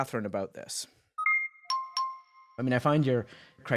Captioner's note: device chiming